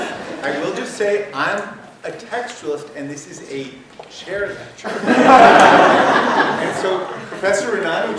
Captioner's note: laughter; laughter